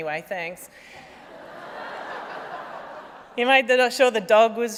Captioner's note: laughter